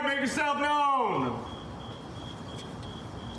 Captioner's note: crickets chirping